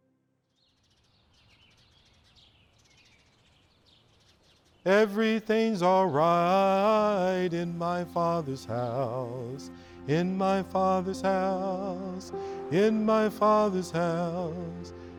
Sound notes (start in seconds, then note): 1.0 birds chirping